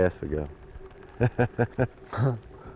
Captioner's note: laughter